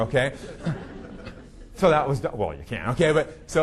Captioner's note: audience laughing